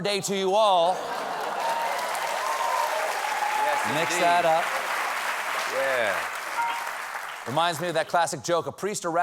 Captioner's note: applause